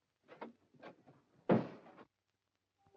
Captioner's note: door closes